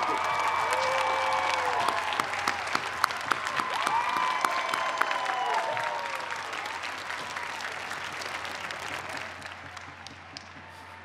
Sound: cheers and applause

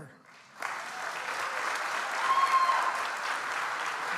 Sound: audience applauds

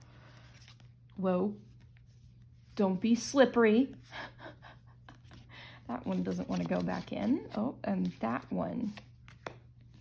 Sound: chuckles

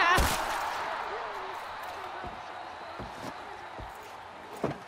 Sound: distant imagined cheering

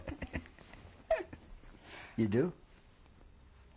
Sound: laughter

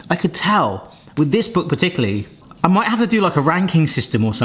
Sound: none

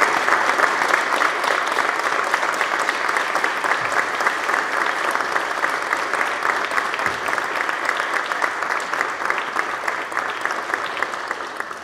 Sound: applause

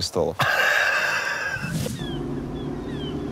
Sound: laughs

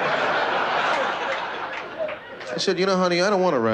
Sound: laughter

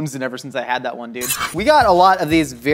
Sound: knife slices

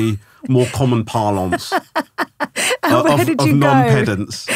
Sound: laughing

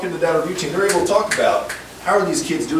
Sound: snaps

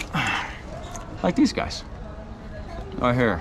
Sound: sighs; chews

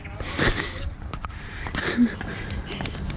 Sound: laughing

